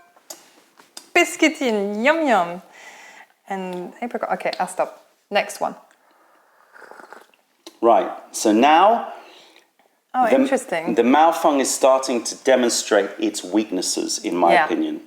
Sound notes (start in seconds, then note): 0.0 sips tea; 5.9 sips tea